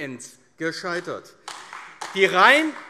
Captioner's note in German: Beifall AfD